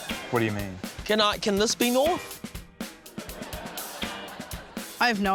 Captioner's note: laughter